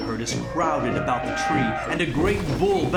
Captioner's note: trumpeting